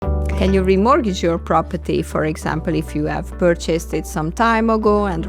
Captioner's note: Spanish